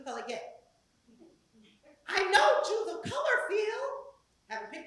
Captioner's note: laugh